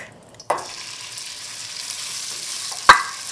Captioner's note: oil popping